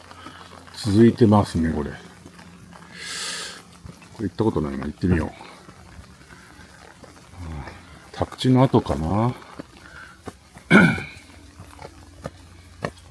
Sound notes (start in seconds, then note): 1.4 stone steps